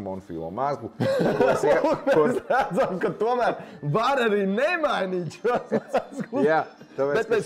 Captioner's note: laughing